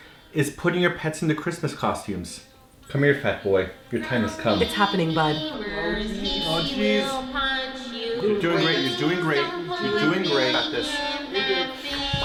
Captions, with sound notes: is putting your pets in the Christmas costumes. Come here fat boy, your time has come. - It's happening, bud. [Meemers voice] (singing) He is meemers, he will punch you. Please don't put me in that thing!